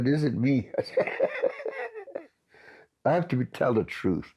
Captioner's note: laughs